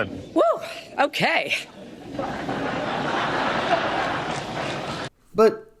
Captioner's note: audience laughs